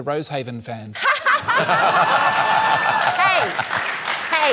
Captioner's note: laughs; cheering